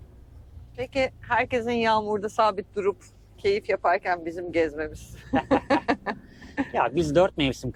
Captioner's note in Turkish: kahkaha